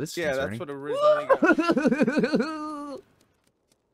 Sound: laughing

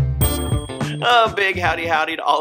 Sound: chiming

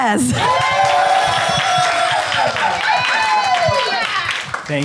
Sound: applause

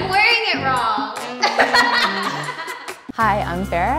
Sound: laughs

